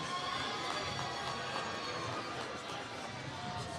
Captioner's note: applause